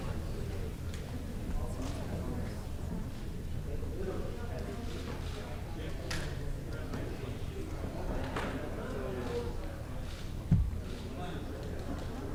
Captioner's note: indistinct chatter